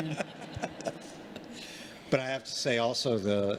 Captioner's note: congregation laughing